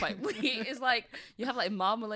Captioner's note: chuckles